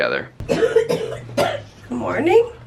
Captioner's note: coughing